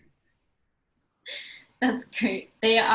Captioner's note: laugh